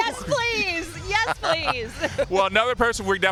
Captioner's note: laughter